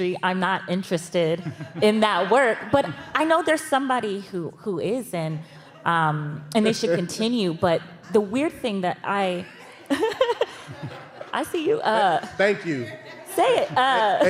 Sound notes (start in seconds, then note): 9.3 audience laughing, reacting